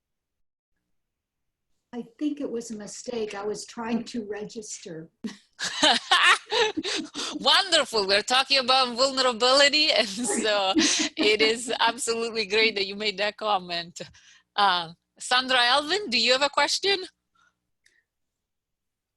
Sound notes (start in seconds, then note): 5.2 laughter